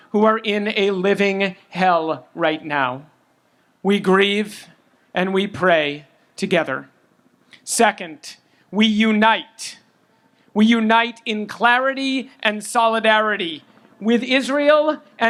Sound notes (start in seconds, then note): none